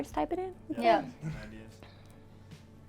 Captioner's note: all muttering agreement